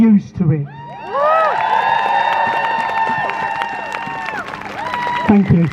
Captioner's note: crowd Cheers